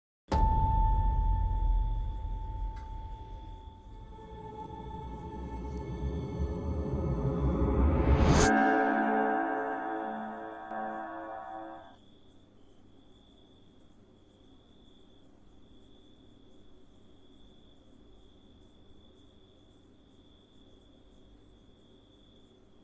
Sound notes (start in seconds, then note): 0.2 ominous musical score; 4.3 ominous music; 11.1 crickets chirp